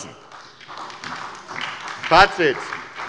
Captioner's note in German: Beifall bei der SPD